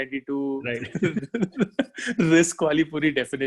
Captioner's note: laghing